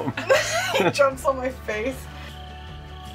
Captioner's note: laughs